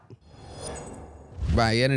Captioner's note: logo whooshing